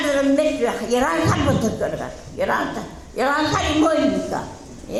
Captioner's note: speaking in foreign language